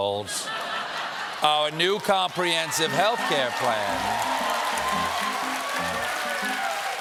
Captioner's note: laughter